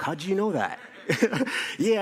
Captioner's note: laughter